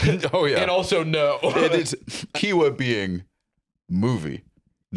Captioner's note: laughs